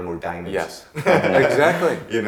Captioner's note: laughing